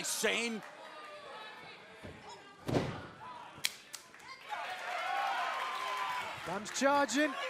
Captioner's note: crowd cheering